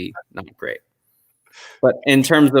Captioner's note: chuckle